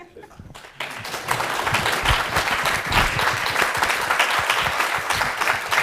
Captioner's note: laugh; applause